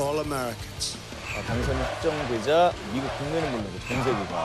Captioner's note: cheering supporters